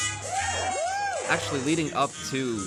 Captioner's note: audience cheers